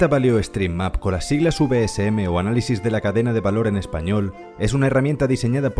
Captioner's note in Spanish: en español